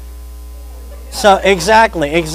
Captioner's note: audience laughs